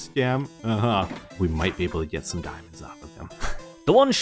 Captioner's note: chuckles; whispering